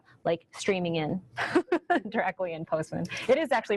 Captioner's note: laughs